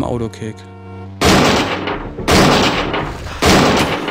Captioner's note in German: Mehrfaches Krachen